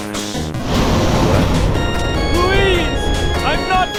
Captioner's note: it then roars